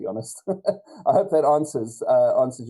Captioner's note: chuckles